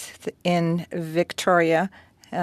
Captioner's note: speaking French